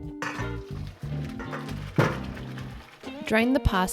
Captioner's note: water drains